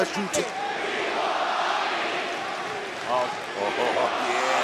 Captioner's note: crowd chants "we want mami"